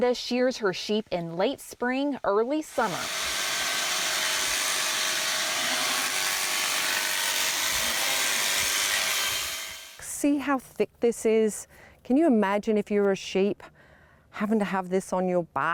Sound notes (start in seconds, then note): 2.7 nat Sound-shearing clippers